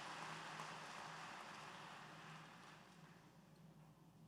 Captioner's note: applause